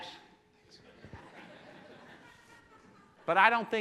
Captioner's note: laughing